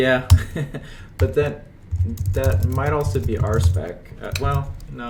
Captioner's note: chuckles